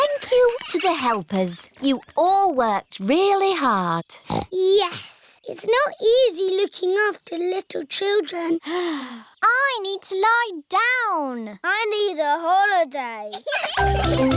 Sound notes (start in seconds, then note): 9.0 sighs; 13.3 all laughing